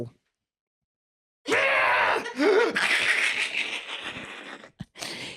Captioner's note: screeches, laughs